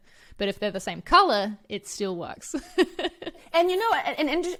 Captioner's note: laughs